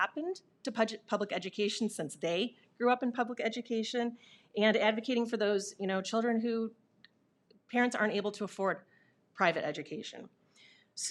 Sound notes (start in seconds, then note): none